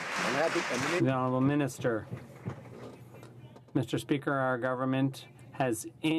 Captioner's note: some Applause